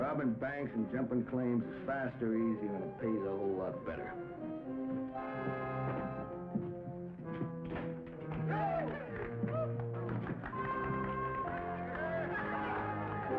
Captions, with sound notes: Robbing banks and jumping claims is faster, easier, and it pays a whole lot better. (cheering) (applauding)